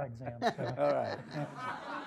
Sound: laughing

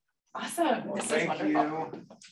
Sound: applause

